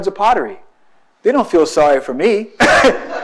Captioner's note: laughs; audience laughs